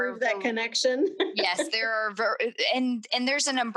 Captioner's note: laughs